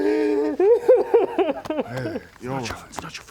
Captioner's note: sobs